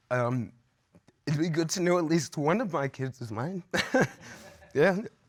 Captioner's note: chuckles